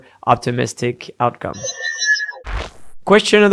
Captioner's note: machine whirring